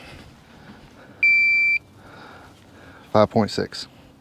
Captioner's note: beeping